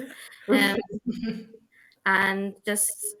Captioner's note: laughing